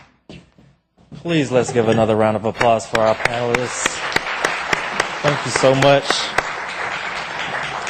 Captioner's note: applause